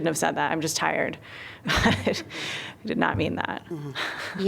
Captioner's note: laughter